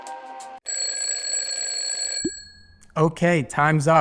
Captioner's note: bell rings